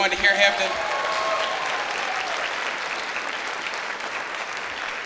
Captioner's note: clapping